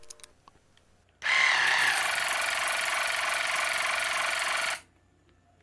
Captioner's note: water flosser spraying